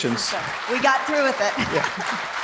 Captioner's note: audience applauding